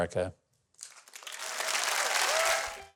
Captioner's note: audience clapping; audience cheering